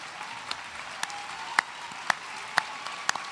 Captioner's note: applause